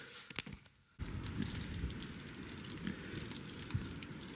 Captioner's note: rain pattering